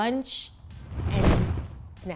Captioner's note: whooshing sound